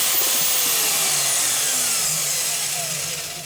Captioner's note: whirring ends